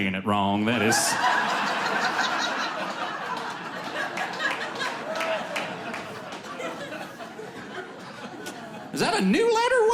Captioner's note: audience laughing